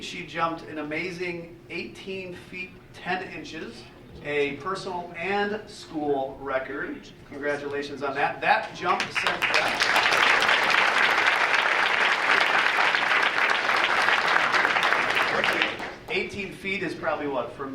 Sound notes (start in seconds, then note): 9.0 audience applauding